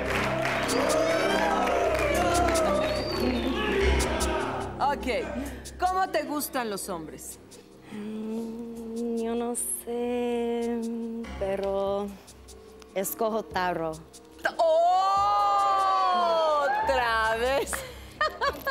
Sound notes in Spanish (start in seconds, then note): 3.8 Exclamaciones; 3.8 Silbidos